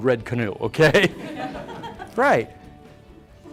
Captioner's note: audience laughs